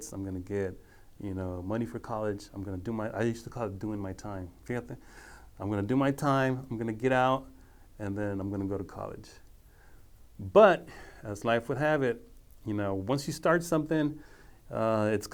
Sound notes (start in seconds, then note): 4.8 speaking foreign language